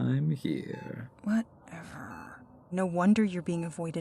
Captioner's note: mutters